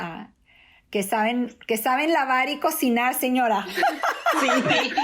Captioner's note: laugh